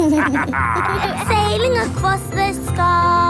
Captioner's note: captain dog and kids laughing